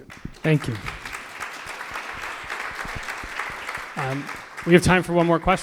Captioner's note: audience clapping